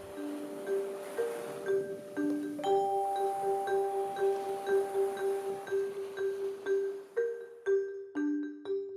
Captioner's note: gentle ocean waves crashing; light music